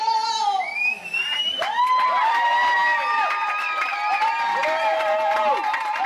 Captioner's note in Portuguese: multidão aplaudindo